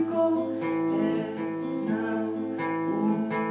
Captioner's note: none